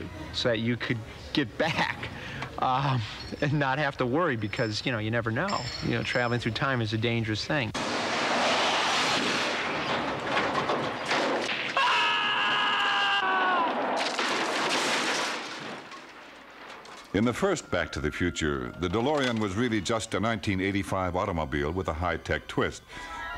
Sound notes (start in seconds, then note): 11.7 screams; 13.8 crashes